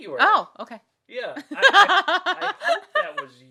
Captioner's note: laughing